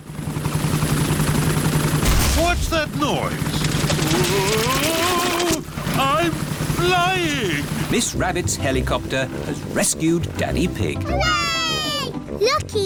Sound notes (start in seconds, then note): 2.0 whirring; 2.0 thuds